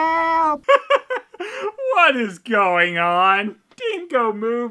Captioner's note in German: verzweifeltes Lachen